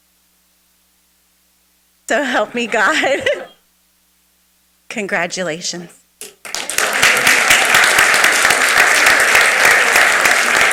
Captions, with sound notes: So help me God. Congratulations. (everyone applauds)